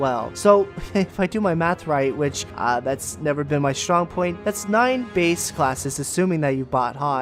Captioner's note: heh